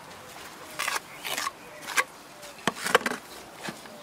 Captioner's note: rough scratching noises